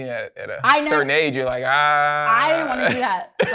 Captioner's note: laughs